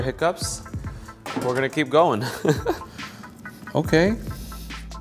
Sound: giggles

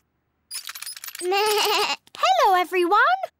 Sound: bleats

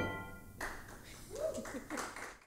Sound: audience applauds

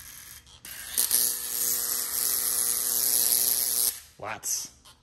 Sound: coil buzzing & sparks zapping

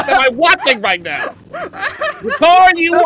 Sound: laughter

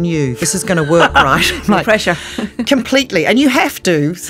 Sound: laughs

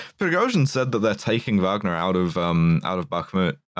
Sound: none

